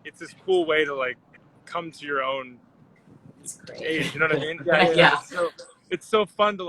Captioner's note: laughs